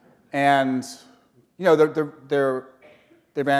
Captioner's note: chuckle